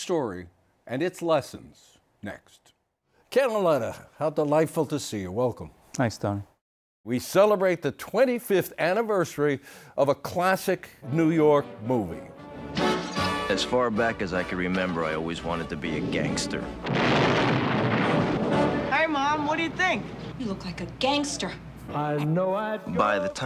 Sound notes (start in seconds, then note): 16.8 explosion